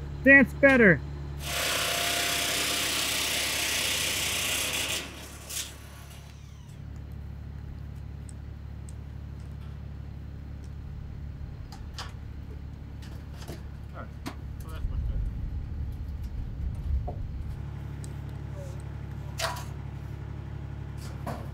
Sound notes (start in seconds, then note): 1.4 machine drilling; 4.5 machine engine rumbling continues; 17.0 machine engine rumbling continues